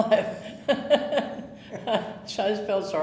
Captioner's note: chuckling